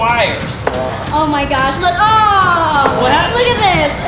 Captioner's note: buzzing